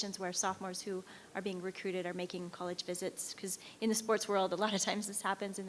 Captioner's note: none